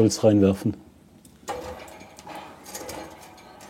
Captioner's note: soft rattling